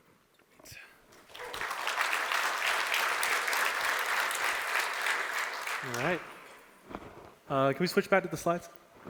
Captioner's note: applause